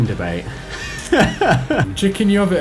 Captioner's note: laughs